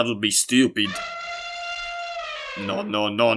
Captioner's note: elephant sound